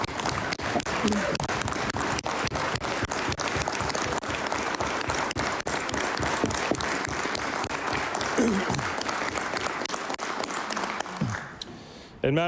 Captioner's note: applause